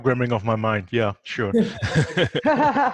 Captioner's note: laughs